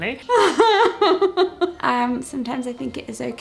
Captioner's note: laughs